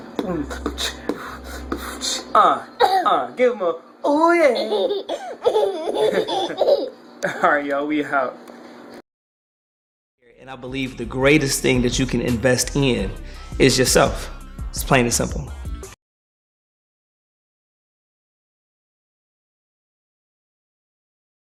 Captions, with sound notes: (beat boxing) - Give him a... Oo yeah. (child laughing) - All right, y'all, we out. And I believe the greatest thing that you can invest in is yourself. It's plain and simple.